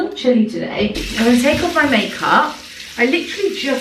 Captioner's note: water rushing